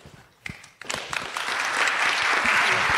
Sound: audience claps

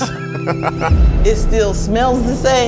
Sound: laughs

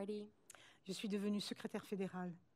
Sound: speaking french

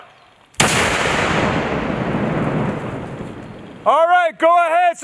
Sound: explosion booms

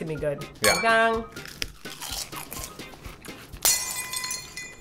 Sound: crunch crunch; sound of a breaking glass

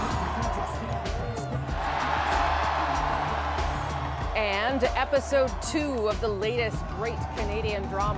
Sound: cheers and Applause

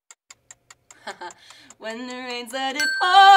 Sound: clock ticks; bell rings

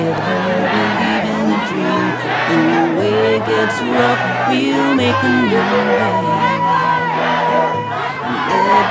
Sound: shouting, "Black Lives Matter"

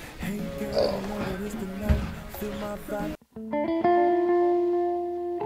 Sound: cell phone ringing

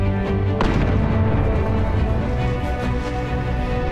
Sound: gunshot

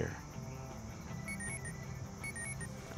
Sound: alarm ringing

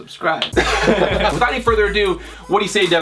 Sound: laughing

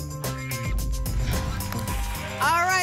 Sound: whoosh

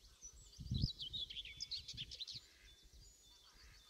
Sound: birdsong

